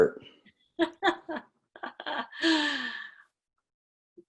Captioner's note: laughs